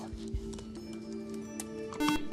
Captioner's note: buzzer